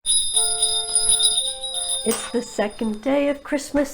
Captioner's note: bell ringing